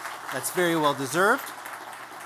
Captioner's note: applause